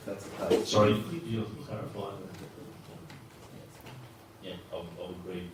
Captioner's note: whispering